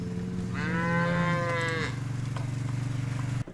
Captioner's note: cows mooing